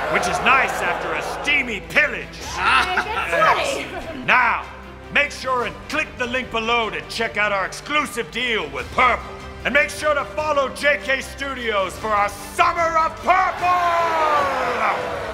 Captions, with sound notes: Which is nice after a steamy pillage. (chuckling) - It gets sweaty! - Now, make sure and click the link below to check out our exclusive deal with Purple. And make sure to follow JK! Studios for our Summer of Purple! (cheering)